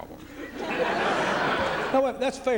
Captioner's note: laughter